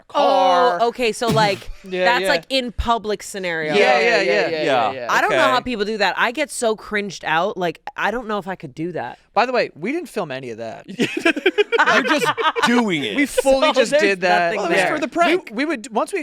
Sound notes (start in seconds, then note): 11.0 laughing; 11.5 laughs